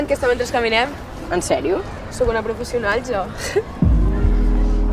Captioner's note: laughs